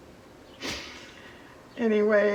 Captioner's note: laughs